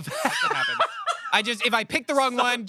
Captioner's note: everyone laughs